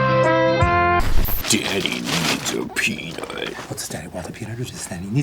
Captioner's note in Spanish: con voz ronca